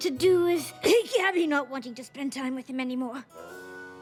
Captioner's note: cough